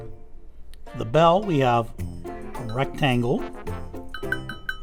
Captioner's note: bell dings